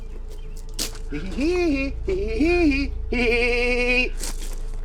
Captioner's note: man mock laughing